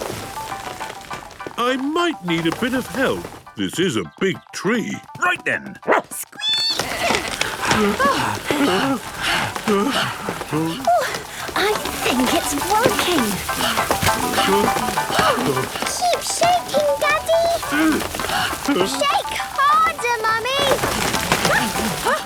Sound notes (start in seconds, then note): 0.1 disc music playing; 5.8 barking, squeaking, bleating; 7.9 all groaning and panting; 13.5 all panting; 17.5 all groaning; 20.7 exclamations